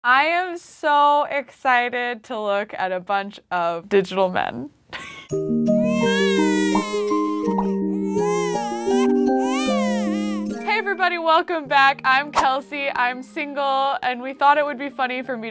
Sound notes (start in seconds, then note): 4.8 laughs; 5.4 gentle lullaby music; 5.8 baby cries